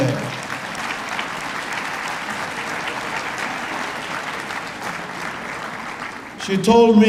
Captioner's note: applause